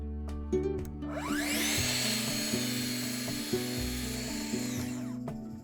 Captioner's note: track saw noises